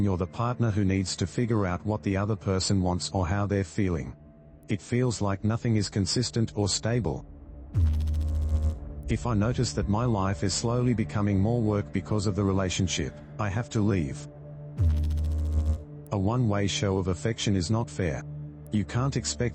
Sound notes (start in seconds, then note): 7.6 electrical noise; 14.7 electrical noise